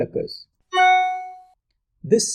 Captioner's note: notification sound